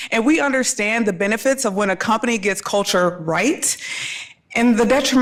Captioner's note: none